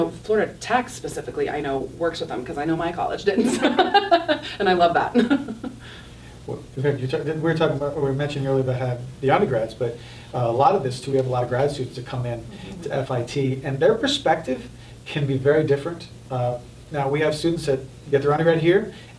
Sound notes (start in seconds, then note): 3.4 laughing